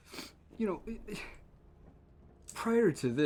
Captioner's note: sigh